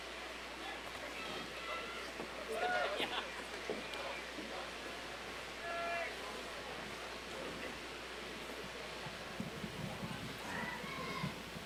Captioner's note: applause and cheering